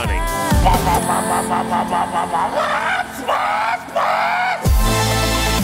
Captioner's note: random exhaust sound effect